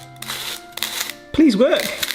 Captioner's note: leaves grinding